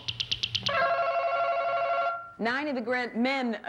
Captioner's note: ringing